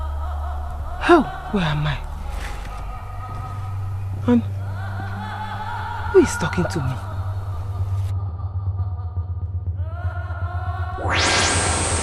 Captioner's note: sighs